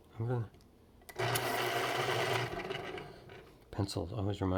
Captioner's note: pencil sharpener sound